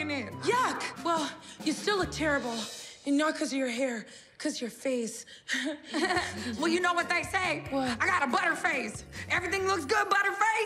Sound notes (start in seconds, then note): 5.5 giggles